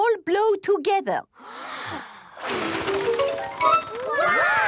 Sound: big breath and blow

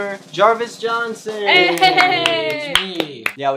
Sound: applauding

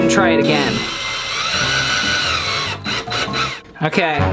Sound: screwing sound

